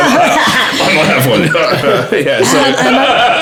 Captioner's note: cough